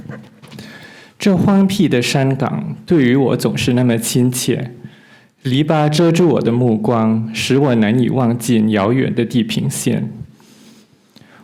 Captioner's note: Mandarin translation of L'Infinito is recited